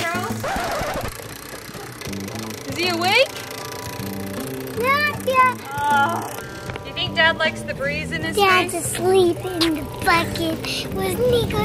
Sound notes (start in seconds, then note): 6.0 exasperated